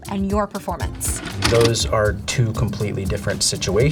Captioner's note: videotape plays